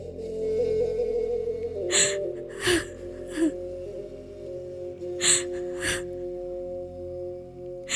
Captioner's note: sobbing